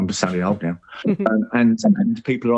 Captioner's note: laughs